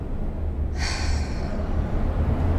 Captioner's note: sigh